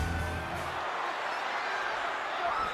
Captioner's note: audience chattering